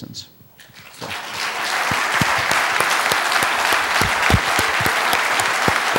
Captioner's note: applause